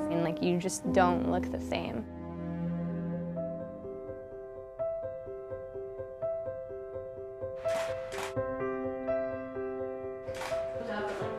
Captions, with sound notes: and like, you just don't look the same. (soft piano music) (camera shutter)